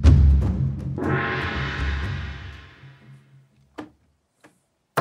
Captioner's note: gong banging